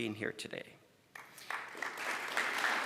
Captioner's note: applause